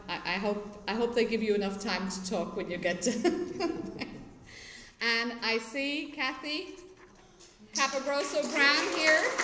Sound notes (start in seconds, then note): 3.1 laughter